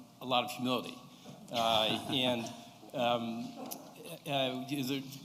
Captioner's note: laughter